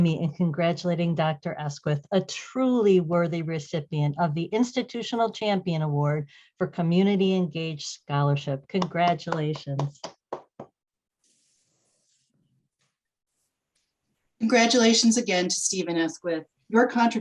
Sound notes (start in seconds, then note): 8.8 claps